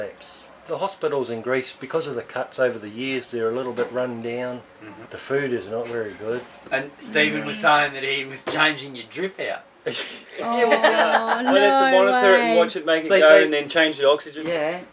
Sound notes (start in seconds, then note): 9.9 laughter